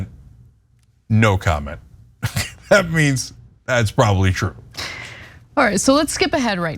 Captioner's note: laugh